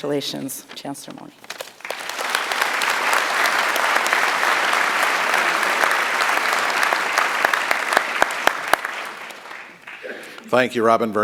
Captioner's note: applause